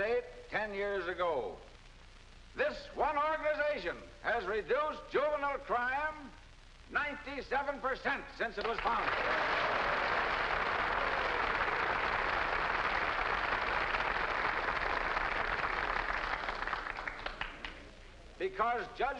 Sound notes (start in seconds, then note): 10.8 crowd applauding